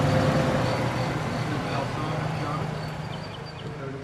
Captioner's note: birds chirping